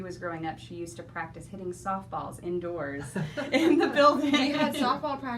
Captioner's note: laughing